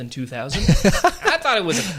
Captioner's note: laughing